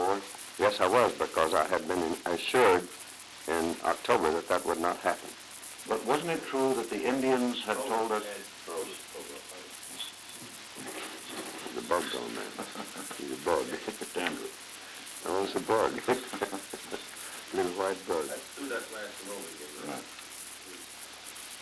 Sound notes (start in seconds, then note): 7.8 production chatter